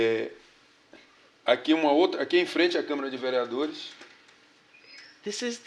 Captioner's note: speaking portuguese